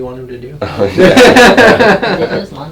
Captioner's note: loud laughing